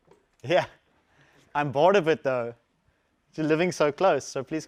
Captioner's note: laugh